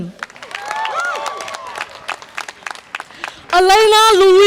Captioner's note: audience applause and cheer